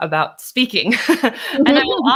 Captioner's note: laughs